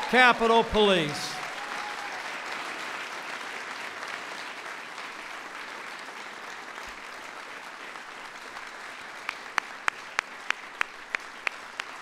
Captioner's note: applause